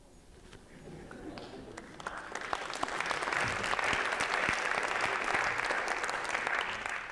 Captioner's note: applause